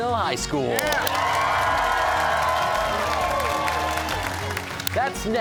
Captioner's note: cheers and applause